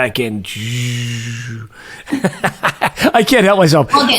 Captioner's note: laughing